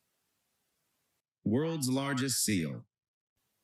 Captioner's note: AI speech